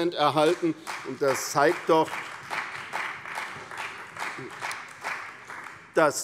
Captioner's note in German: Beifall bei der CDU und dem BÜNDNIS 90/DIE GRÜNEN